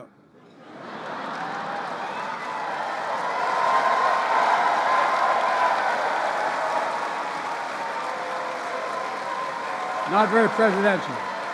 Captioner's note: laughter and applause